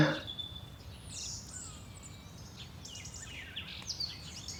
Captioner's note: birds chirping